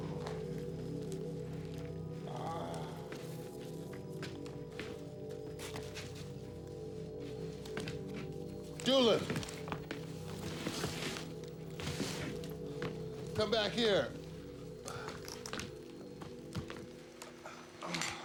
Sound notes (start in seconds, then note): 0.2 groans; 3.2 footsteps